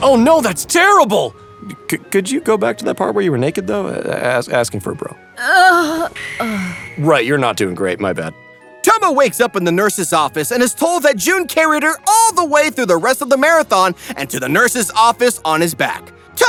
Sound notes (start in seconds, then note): 6.0 Tomo groans